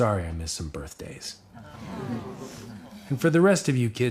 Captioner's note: awws